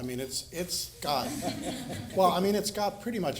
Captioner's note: audience laughing